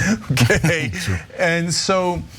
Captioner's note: laugh